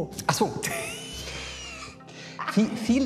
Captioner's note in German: lacht